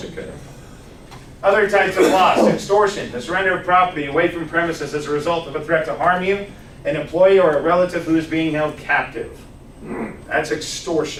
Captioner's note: coughs